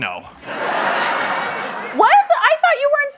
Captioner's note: laughter